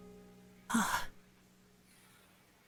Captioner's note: Scrappy sigh of relief